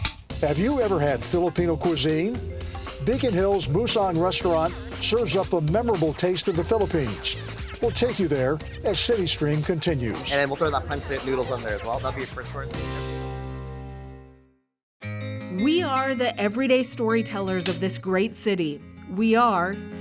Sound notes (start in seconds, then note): none